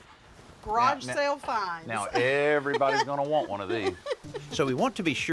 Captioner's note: laughs